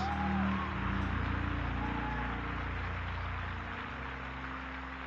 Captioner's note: aplausos